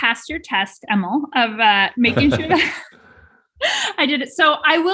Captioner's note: both chuckling